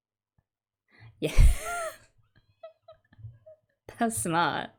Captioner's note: laughs